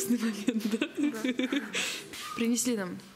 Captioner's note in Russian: смеются